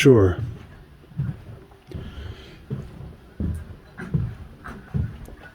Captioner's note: feet thudding